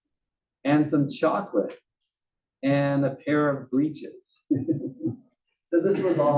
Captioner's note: laugh